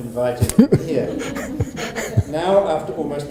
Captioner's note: audience laughing